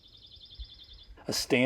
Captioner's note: bird song